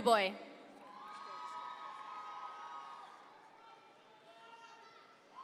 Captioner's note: audience members cheer